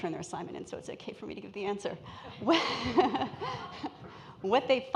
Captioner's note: laughs